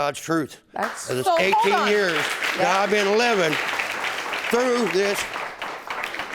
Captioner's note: audience applauding